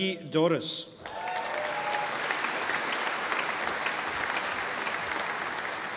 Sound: audience applauding

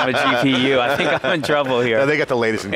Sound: laughing

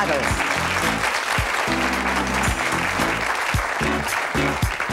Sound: audience applauding

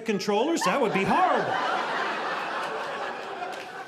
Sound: audience laughing

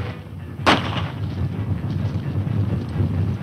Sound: gunshots

